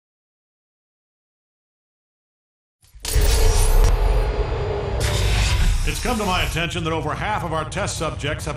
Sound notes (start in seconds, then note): 3.0 elevator arriving